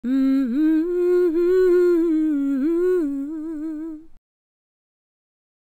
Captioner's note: intro humming